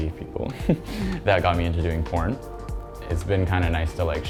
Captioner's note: chuckles